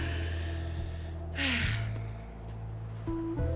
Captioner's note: sighs